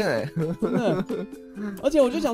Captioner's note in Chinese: 笑～